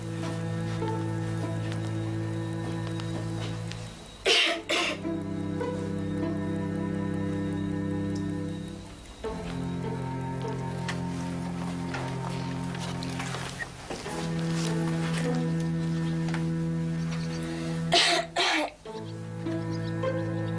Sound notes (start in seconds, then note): 0.2 dramatic orchestral music; 4.2 Bess coughing; 8.6 clock ticking